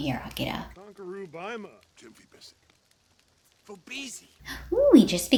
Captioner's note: sims talking